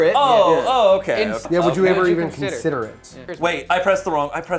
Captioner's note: overlapping chatter